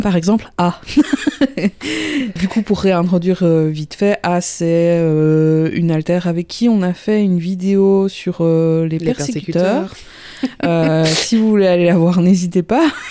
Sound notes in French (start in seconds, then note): 10.4 rire